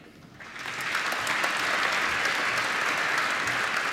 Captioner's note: applause